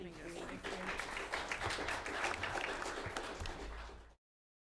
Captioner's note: applause